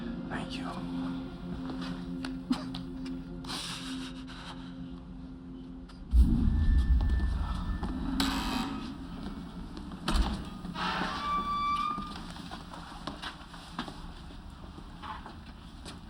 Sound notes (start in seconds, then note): 3.6 sobs; 8.1 door buzzes, creaks